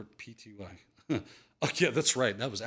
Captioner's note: chuckles